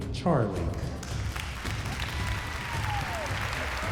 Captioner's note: applause and cheering